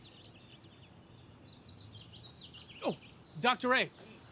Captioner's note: birds chirping